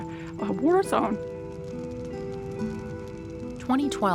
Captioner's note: fire crackling